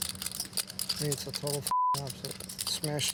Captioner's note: beep